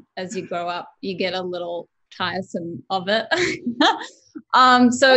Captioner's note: laughs